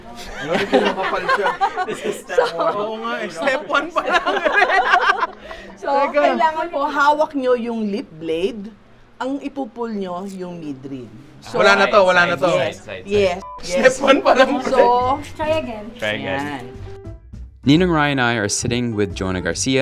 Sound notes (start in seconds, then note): 0.0 laughs